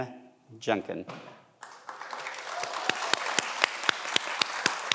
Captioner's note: everyone applauds